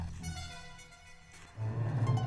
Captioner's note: horns tooting